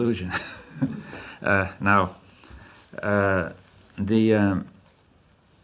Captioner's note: laughs